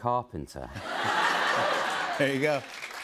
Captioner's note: laughter